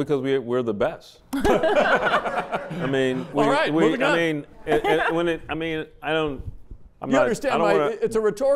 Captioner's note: laughter